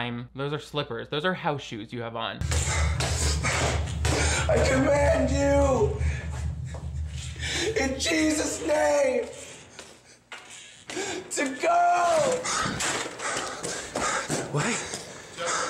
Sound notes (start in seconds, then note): 2.5 panting